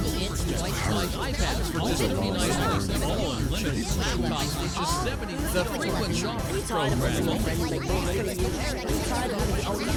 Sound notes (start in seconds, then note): 1.6 multiple advertisements overlapping; 6.2 voices accelerating